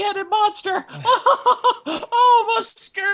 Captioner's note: laughing